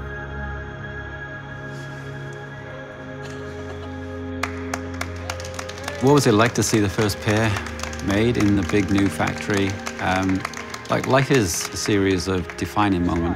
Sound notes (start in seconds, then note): 3.2 laughs; 4.4 applause